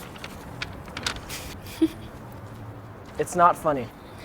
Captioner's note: giggling